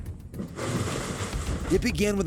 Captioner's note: crash